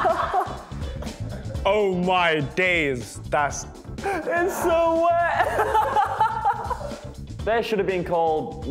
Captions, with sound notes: - Oh my days. - It's so wet (laughs). There's should have been called